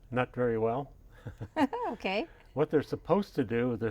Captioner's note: both laugh